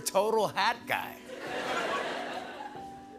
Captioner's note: laughter